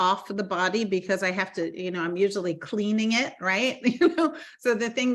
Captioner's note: laughing